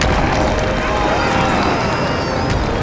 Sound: screaming

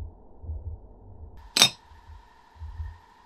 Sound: clink

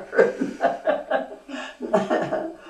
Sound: laughs

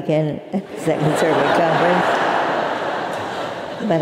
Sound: laugh

